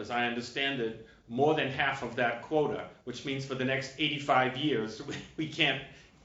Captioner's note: laughter